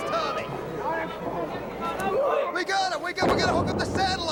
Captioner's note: crowd chatter